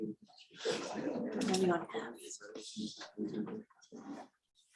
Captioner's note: people murmuring